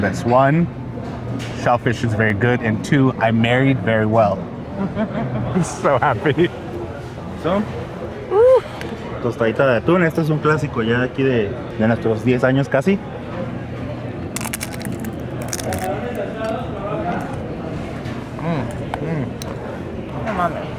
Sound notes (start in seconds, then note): 5.0 she chuckles; 7.8 speak in Spanish; 14.3 tortillas crunch